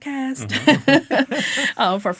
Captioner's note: all laughing